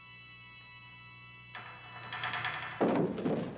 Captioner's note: metal rattling